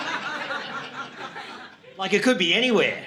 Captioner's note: audience laughing